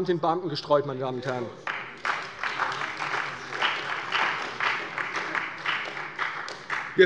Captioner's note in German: Beifall bei der CDU